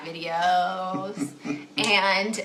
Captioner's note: chuckles